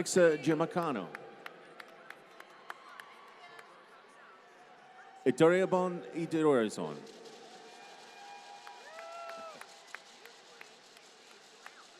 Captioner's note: applause